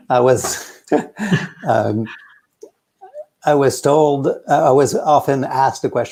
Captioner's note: both laughing